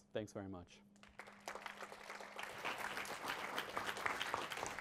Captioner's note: applause